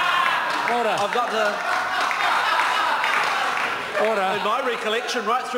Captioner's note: members laugh